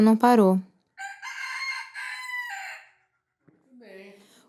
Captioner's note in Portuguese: som do galo cantando ao fundo